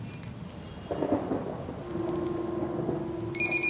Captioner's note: thunder rumbles